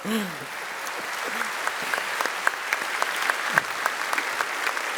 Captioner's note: laughs; applause